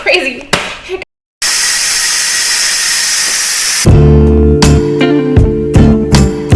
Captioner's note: sound of instapot releasing